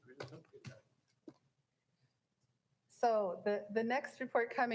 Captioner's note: people chattering